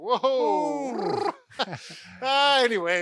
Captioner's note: laughs